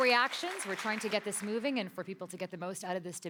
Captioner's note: applause